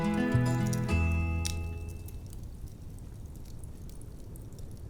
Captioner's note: fire crackling